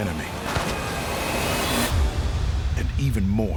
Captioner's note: gunfire